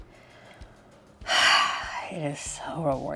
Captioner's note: sighs